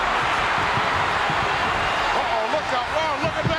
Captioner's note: audience cheering